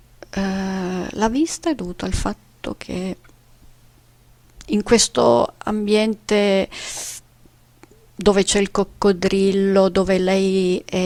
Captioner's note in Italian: sbuffare